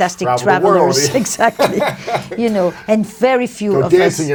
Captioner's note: Lewis laughing